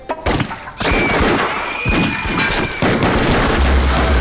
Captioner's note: gunfire